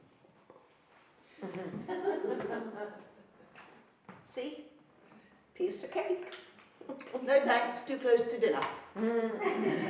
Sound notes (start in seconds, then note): 2.1 laughing